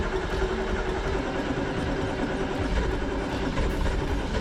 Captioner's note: vehicle starts